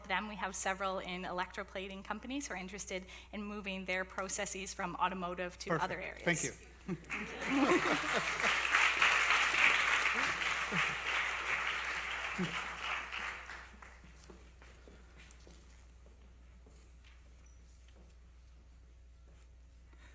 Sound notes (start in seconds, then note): 7.0 applause